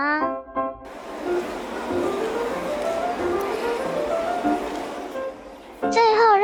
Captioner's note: crowd noise